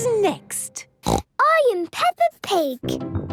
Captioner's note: snorts